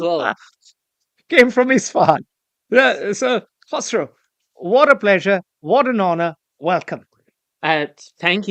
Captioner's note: laughs